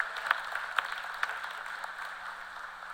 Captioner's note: cheers and applause